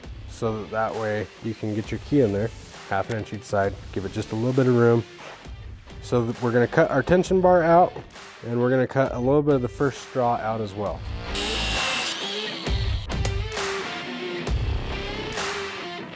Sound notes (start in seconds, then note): 11.2 mechanical whirring; 12.5 upbeat rock music